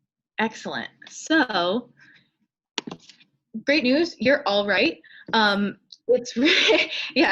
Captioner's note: laughs